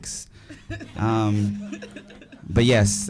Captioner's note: audience laughing